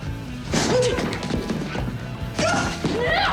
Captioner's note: grunts